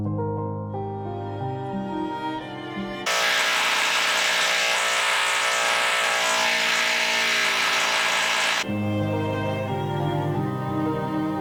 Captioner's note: obnoxiously loud drilling